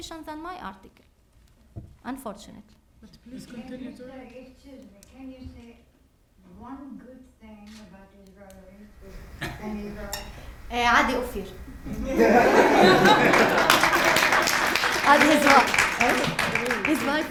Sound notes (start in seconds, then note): 12.2 laughter and applause